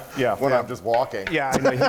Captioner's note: laughing loudly